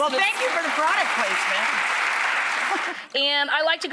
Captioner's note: audience clapping